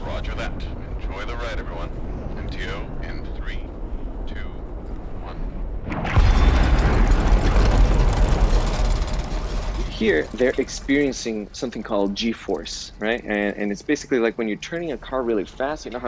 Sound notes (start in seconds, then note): 0.1 Joe Over Radio; 6.1 engines rumbling